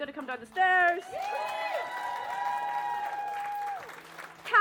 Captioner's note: cheering